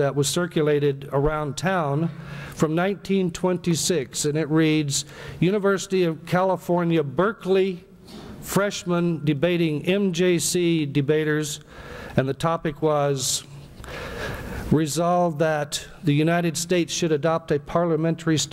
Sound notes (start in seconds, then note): none